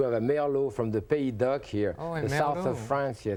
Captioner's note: French language